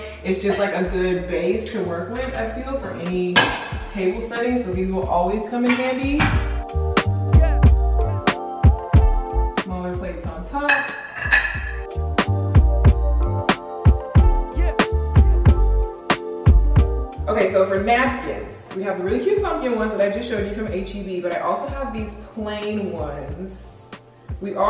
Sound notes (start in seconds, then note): 7.2 mellow music; 10.6 plates clanging; 12.2 mellow music